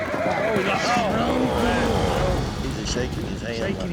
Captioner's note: all groaning